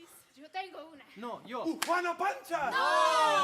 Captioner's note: speaking Spanish